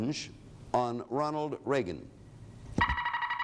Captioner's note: alarm sounds